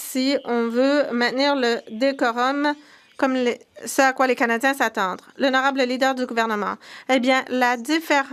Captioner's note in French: voix de l'interprète